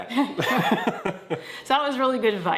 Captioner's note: laugh